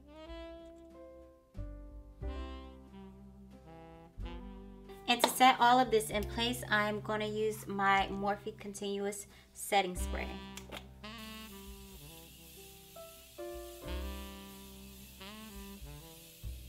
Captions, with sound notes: And to set all of this in place, I am gonna use my Morphe Continuous Setting Spray. (spraying)